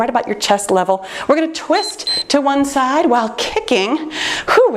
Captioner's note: timer beeps